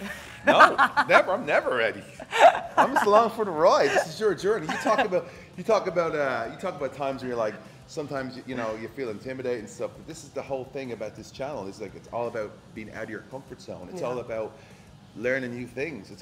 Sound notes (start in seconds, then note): 0.0 laugh